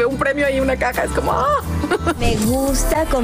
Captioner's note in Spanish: risas